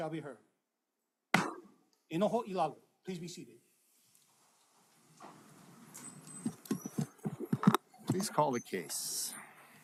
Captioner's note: gavel bangs once